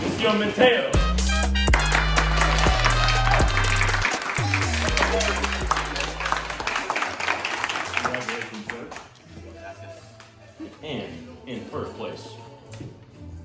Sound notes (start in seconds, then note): 1.6 applause